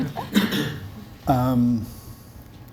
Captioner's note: audience Laughs